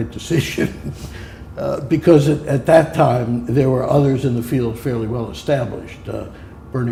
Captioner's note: chuckle